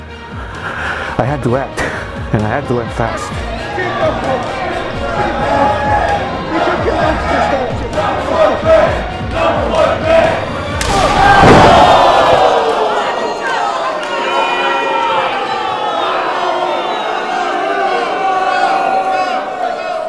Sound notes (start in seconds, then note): 5.9 audience shouting; 10.8 slap; 10.9 audience booing